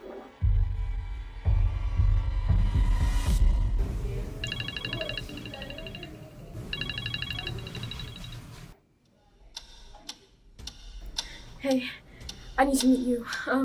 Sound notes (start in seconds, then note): 4.4 phone rings